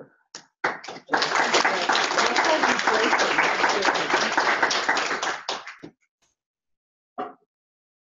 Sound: applause

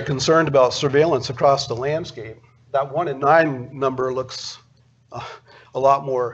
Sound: laughs

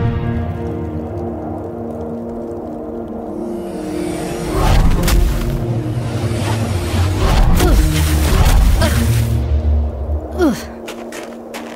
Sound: snow crunching

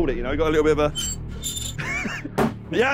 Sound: squeaking

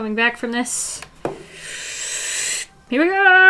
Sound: deep inhale

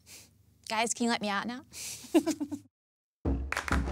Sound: giggling

